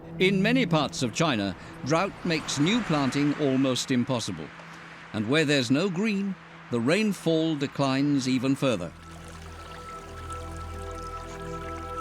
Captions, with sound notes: In many parts of China, drought makes new planting almost impossible. And where there's no green, the rainfall declines even further. [water trickling]